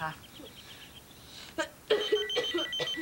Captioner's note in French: Sonnerie de téléphone